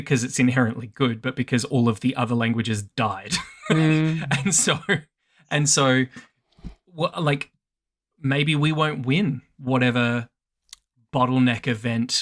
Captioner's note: laughs